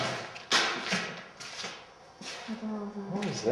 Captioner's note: thudding